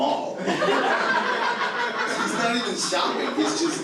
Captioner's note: audience laughing